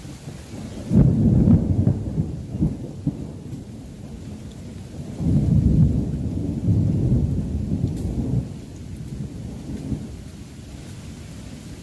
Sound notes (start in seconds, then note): 0.0 rain Pouring; 0.1 rumbling Thunder; 9.7 rain Pouring